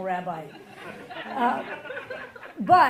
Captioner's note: audience laughing